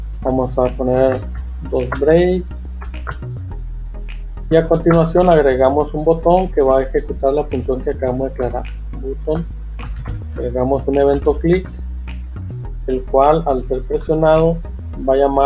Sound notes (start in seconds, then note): 9.8 click